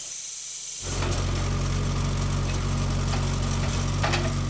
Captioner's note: saw whizzing; engine roaring